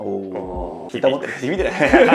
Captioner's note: laughs